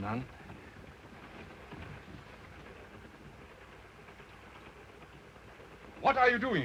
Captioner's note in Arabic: صوت خشخشة القطار